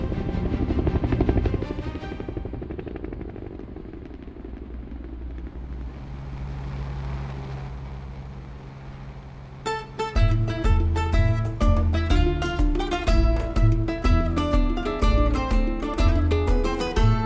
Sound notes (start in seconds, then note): 0.0 epic music continues; 3.3 traffic and city life noises